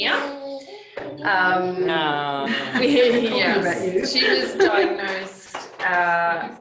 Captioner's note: cooing